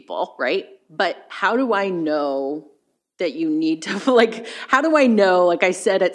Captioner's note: chuckles